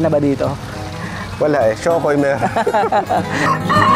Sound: laughs

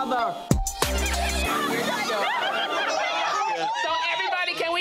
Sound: group laughing

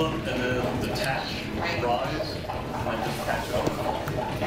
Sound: bubbling

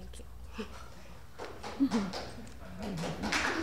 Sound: applause

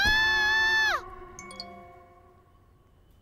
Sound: message tone

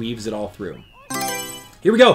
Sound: Mario Selection Sound

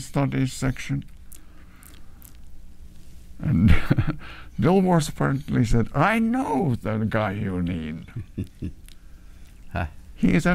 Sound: laughs

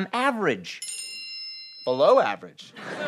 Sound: bell noise

